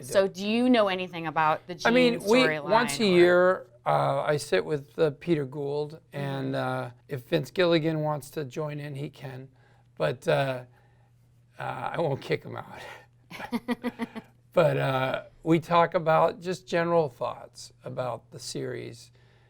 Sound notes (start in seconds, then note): 13.3 chuckles; 13.4 laughs